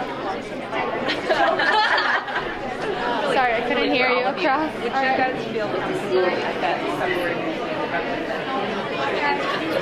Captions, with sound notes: (laughing) >>Sorry, I couldn't hear you across. (murmuring)